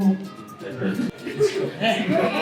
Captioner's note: laughing